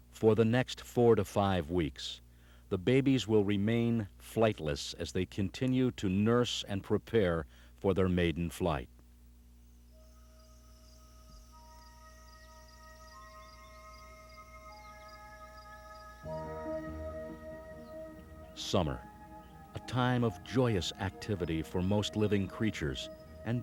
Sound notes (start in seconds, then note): 9.7 bright orchestral music; 9.7 insects chirping